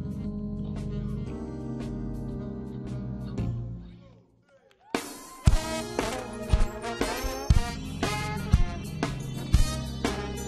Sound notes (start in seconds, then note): 4.6 audience cheering; 5.4 bright jazz music